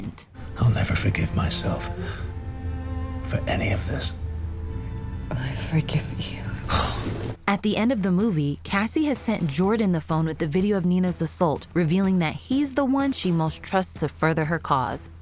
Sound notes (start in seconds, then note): 6.6 sigh of relief